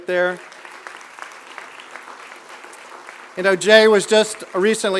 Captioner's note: applause